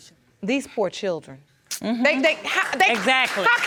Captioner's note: audience applauding